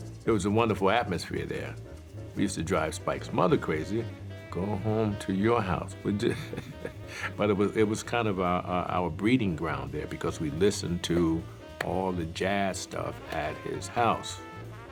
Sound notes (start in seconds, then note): 5.9 laughs